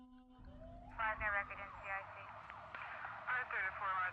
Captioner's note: police radio chatter